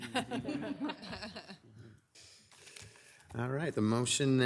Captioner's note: people chuckle